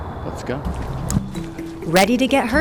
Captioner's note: light music; footsteps thudding